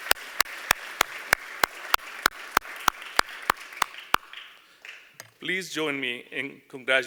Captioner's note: applause